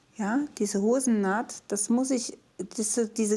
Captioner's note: none